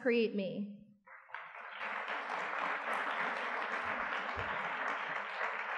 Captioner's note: audience clapping